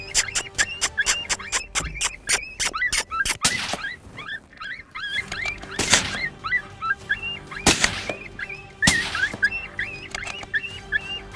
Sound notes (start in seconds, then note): 0.0 kissing noise; 3.4 gunshot; 5.9 gunshot